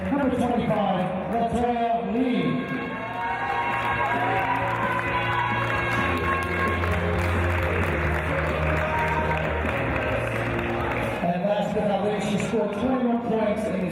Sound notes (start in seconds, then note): 3.0 cheers and applause